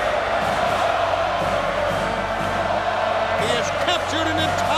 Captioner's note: crowd cheering and chanting